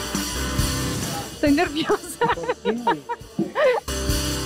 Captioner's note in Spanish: Ríe